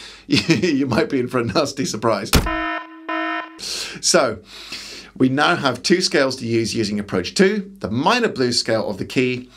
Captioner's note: klaxon